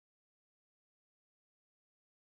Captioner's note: none